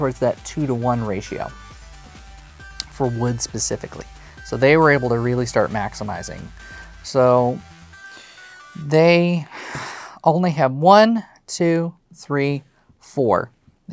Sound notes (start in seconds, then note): 9.5 sighs; 9.6 song ends